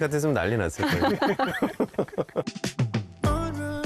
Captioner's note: laughs